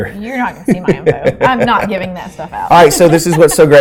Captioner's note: both laughing